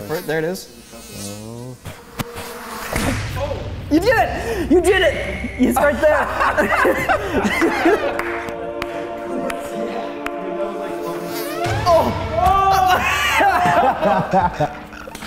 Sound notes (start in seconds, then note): 0.0 fly buzzing; 0.7 blowing; 2.9 smack; 5.6 laughter; 6.4 clapping; 10.6 second fly buzzes; 13.2 laughter